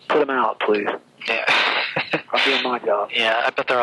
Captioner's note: laughs